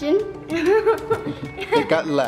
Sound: laughs

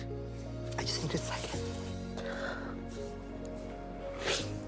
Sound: sobbing

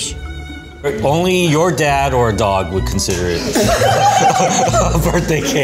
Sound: laughs

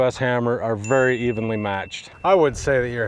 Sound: bell dinging

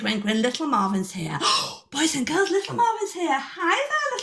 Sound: gasp

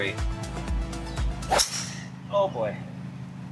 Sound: ball thwacking

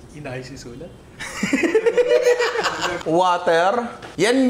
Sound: laughter

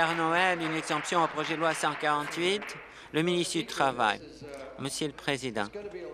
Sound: applause

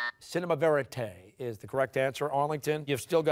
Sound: buzzer sounding

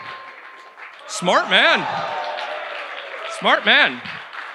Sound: audience cheers

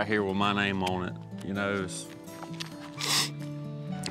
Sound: sniffs

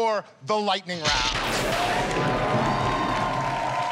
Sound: lightning crackles, cheers and applause

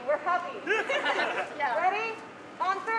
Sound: laughter

